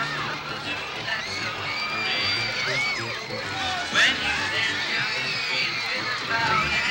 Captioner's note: people screaming